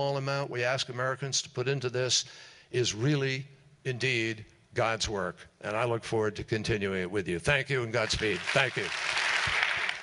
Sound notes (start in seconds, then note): 8.1 applause